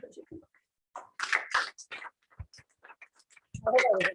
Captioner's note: applause